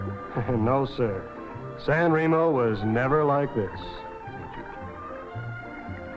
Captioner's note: chuckles